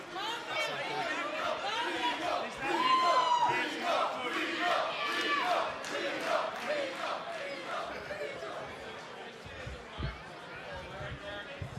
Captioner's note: fans chanting